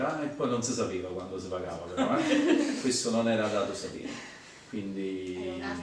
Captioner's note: laughs